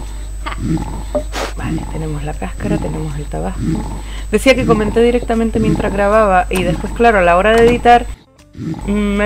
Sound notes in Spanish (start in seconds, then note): 1.1 susurrando para sí misma